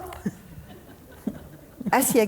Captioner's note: audience members laughing